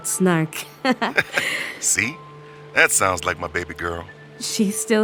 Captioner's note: laughing